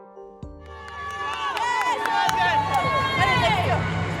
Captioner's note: team cheers